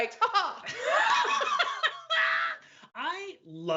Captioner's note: both laugh